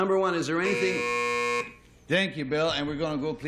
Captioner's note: buzzer